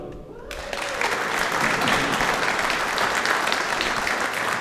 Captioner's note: audience applauding